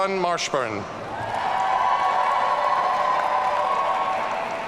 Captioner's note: audience cheering